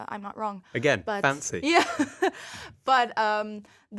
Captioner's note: laughs